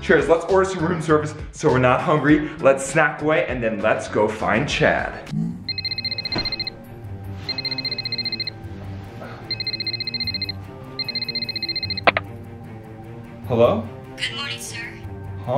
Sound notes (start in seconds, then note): 5.4 phone ringing